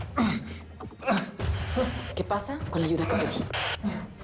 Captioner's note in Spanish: Quejidos